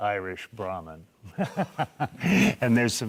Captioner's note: laughing